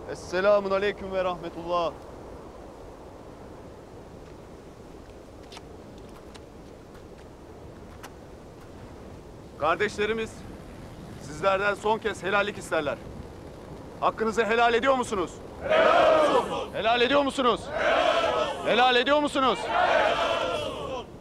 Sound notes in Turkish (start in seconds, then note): 15.5 Hep bir ağızdan; 19.8 Hep bir ağızdan